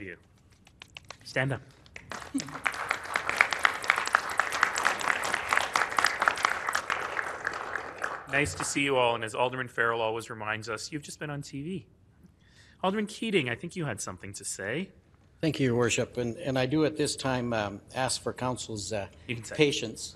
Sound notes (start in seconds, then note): 3.9 applause